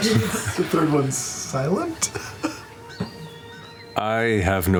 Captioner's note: laughs